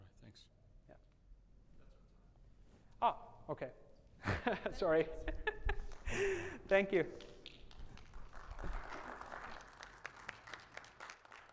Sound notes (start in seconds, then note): 4.2 laughs; 6.6 audience applauds